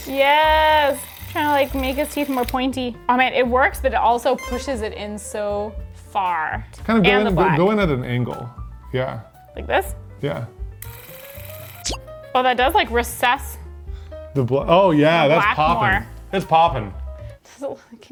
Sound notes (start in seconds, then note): 10.8 device clicking